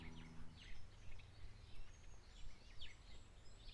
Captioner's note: birds are heard chirping away enthusiastically